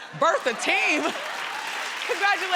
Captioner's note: crowd laughs